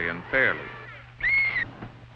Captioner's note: whistle blows